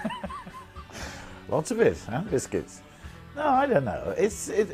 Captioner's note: laughs